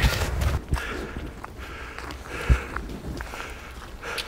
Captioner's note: panting